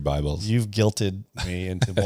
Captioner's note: laughs